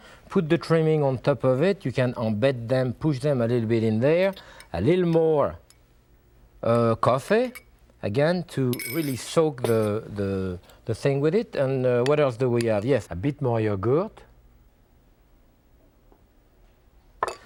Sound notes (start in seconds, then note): 8.7 spoon clinking; 12.4 spoon clicks